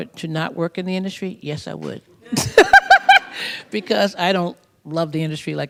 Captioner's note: laughs